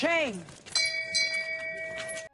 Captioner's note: ding